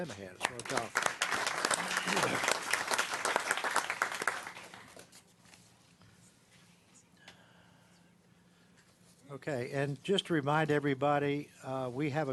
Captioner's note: clapping